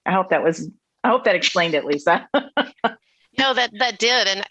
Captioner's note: laughs